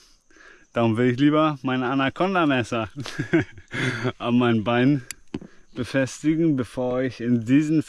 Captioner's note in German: gelächter